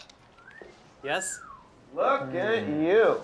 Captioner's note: whistling